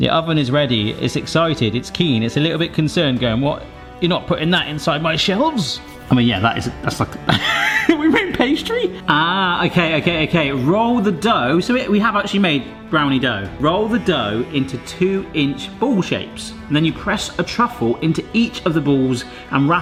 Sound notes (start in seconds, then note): 0.1 slow dramatic music; 7.2 laughs